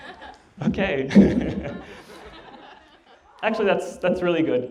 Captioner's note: laughter